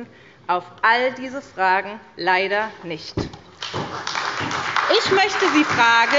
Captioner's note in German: Beifall bei der SPD